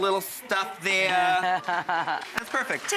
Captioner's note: laughing